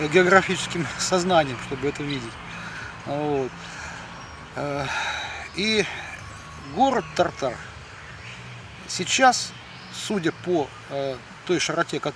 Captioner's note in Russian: вздыхает